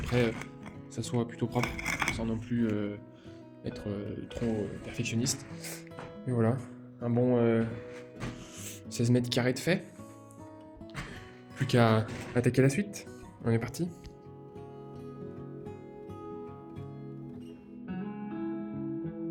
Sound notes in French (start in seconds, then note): 4.3 grognement